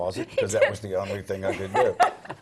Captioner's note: laugh